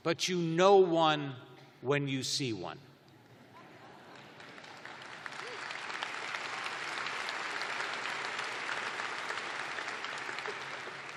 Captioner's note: applause